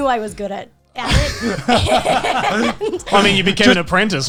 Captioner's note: all laughing